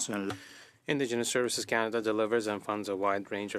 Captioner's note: speaking in French